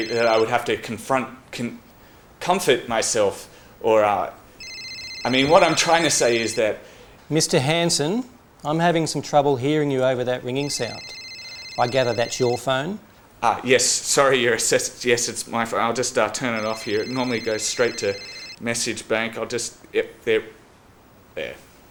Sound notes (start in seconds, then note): 0.0 phone still ringing; 4.5 phone still ringing